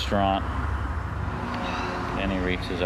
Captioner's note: sighs